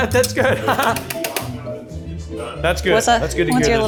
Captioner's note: whisk clicking